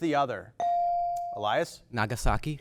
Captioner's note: bell dings